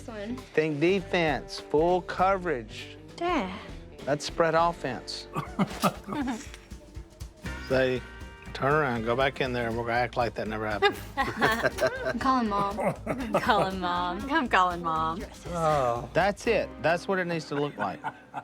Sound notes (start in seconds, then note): 5.3 Si laughs; 10.9 laughing